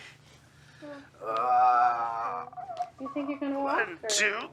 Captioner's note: growls playfully